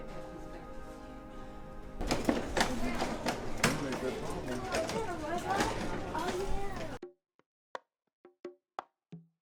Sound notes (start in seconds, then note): 2.0 chatter of Children